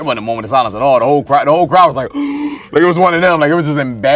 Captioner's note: gasp